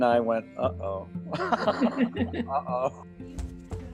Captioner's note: both laughing